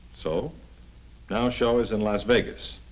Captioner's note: none